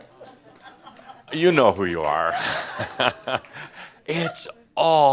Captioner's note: chuckles